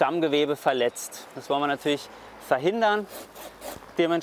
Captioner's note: cutting noises